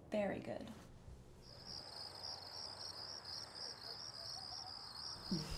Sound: crickets chirping

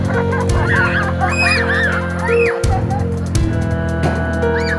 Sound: screaming

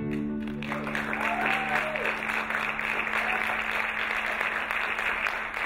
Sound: applauding; cheering

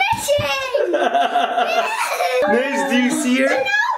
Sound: people laughing

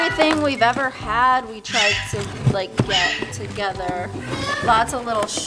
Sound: bird squawking loudly

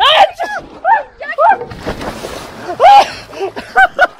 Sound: laughing

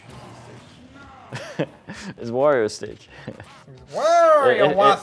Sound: laughs

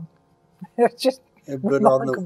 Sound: laughs

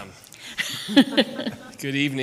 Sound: group laughs

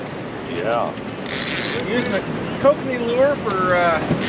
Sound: reel cranking

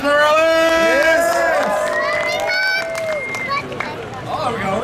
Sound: audience cheering

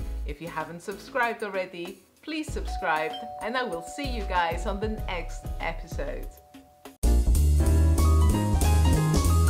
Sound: doorbell

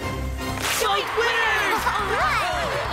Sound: crowd cheering; Cozmo and Vector cheering

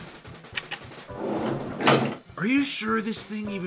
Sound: elevator opens

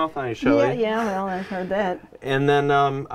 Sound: man laughing

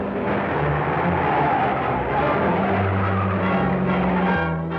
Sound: tires screech

